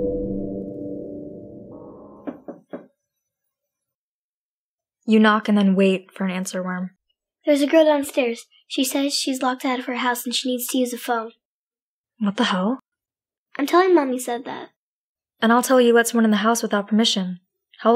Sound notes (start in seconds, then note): 2.2 soft knocking